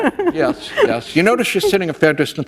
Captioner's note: laughter